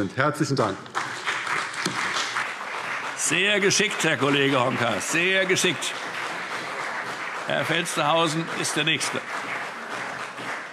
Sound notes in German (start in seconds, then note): 1.7 Beifall CDU und BÜNDNIS 90/DIE GRÜNEN